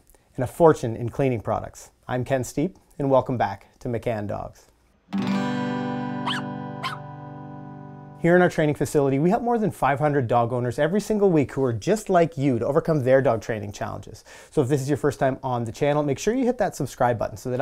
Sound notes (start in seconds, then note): 5.0 guitar strumming; 6.8 puppy barking